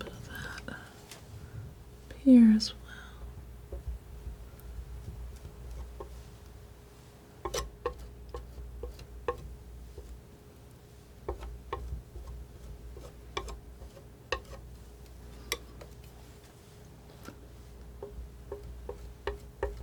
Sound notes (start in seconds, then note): 3.9 tapping